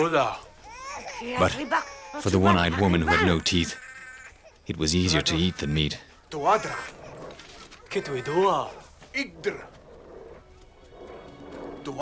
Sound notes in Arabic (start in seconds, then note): 6.4 الصوت المنطوق البدوي